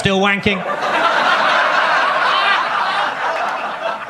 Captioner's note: audience laughs